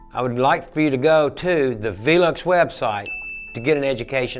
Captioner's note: bell rings